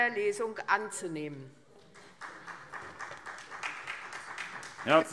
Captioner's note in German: Beifall SPD